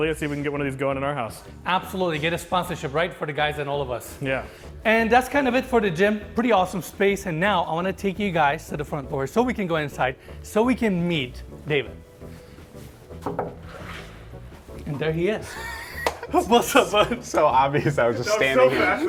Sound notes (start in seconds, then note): 13.2 knocking on door; 15.4 laughing